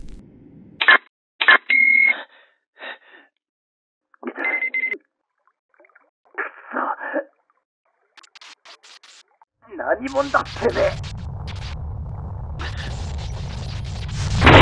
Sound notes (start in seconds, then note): 0.8 beep...Beep...Beep; 4.4 analysis beep